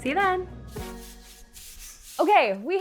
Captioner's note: paint roller swishing